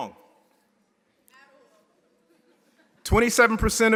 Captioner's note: audience member shouting